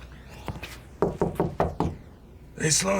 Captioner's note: knocking